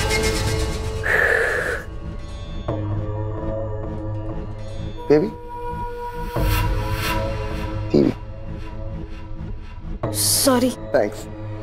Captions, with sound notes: [sighing] Baby... TV. - Sorry. - Thanks.